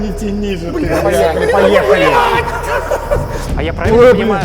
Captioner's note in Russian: крик